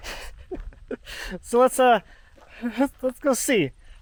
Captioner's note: laughing